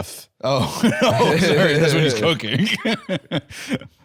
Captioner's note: laughs